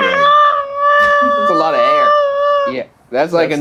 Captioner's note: screaming